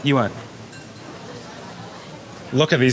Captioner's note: chef speaking in foreign language; speaking in foreign language